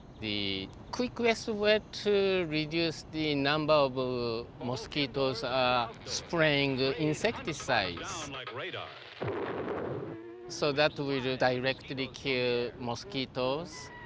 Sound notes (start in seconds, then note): 9.0 mosquitoes buzzing; 9.2 loud explosion